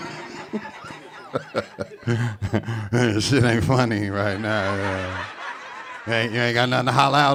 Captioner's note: audience laughing; laughs